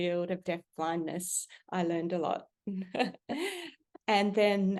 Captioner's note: chuckle